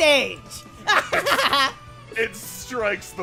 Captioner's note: laughing